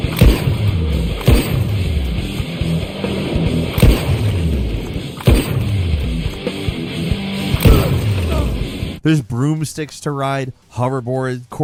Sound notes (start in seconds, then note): 0.0 gunshot fires; 7.6 player grunts